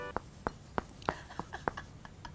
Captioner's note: thud